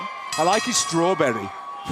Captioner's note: bell ringing